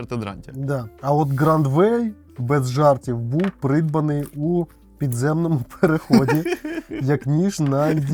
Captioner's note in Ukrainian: сміх